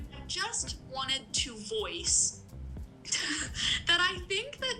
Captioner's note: laughs